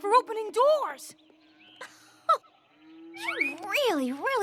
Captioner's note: scoffs